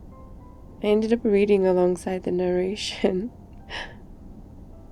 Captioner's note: laughs